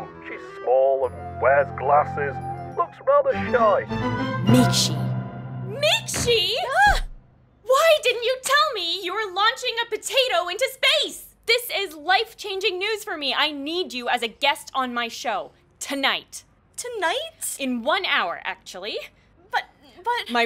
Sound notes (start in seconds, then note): none